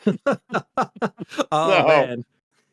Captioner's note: laughing